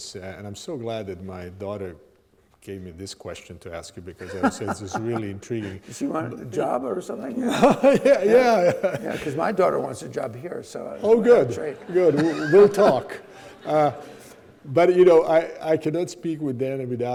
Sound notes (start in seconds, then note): 4.2 Dan laughing; 7.2 laughing